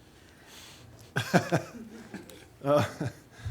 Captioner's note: laughing